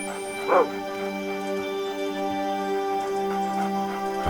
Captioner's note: barks